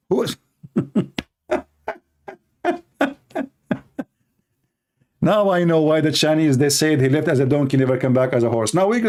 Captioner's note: Ketawa